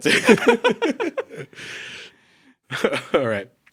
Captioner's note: both laugh